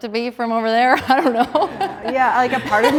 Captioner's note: laughing